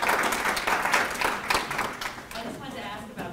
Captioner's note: claps